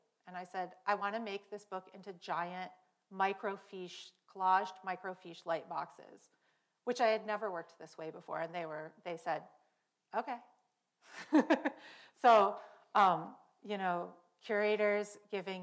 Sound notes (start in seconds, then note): 11.2 laughs